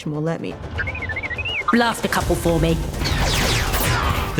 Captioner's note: chirping